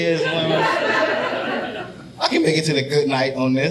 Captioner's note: audience laughing